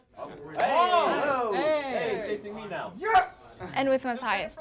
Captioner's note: students chattering